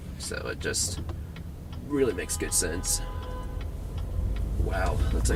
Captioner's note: horn Honking